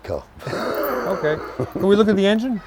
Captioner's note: laughing